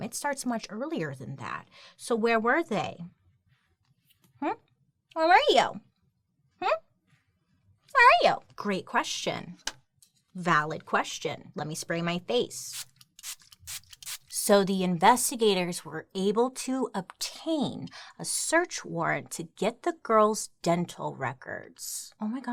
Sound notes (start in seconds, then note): 12.7 spray spritzing